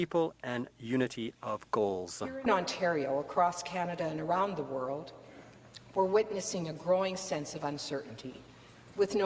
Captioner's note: speaking French